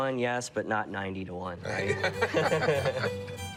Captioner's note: laughter